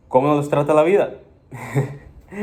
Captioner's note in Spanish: risas